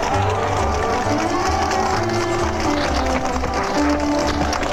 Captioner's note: bull hooves clopping